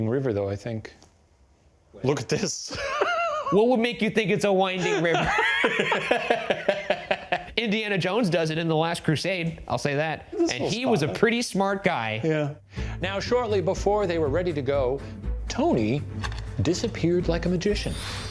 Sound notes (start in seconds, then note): 2.7 laughing; 4.8 laughing